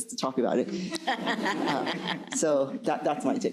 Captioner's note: crowd laughing